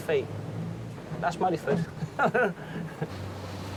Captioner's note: chuckles